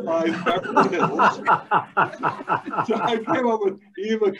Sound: laughing

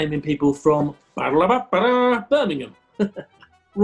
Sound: mimics trumpet fanfare

